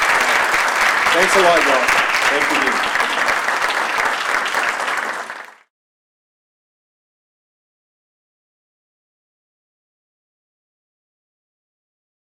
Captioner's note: applause